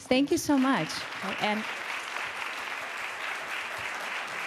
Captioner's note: applause